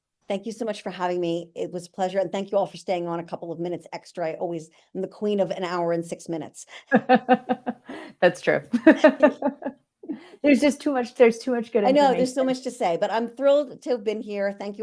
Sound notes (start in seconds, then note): 6.8 laughing